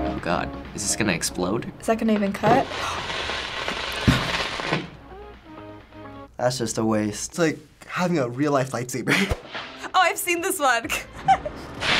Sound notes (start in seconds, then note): 2.4 toothpaste sizzling; 2.6 gasping; 10.9 giggling; 11.8 cap sizzling